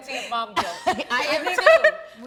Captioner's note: laughing relatably